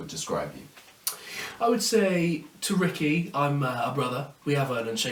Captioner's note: clicks tongue